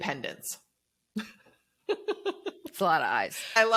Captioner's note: chuckles